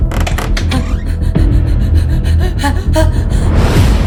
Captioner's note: panting